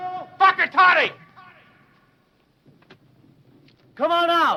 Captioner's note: speaking foreign language